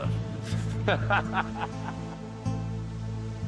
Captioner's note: laughing